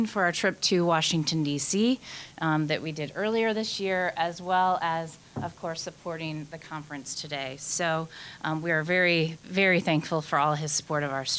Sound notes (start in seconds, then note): none